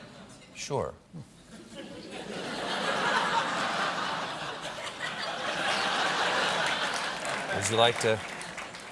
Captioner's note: laughter